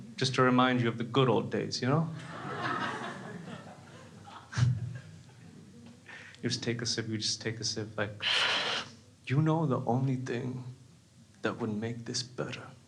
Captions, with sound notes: Just to remind you of the good old days. (laughs) You use to take a sip like (slurping). You know the only thing that would make this better,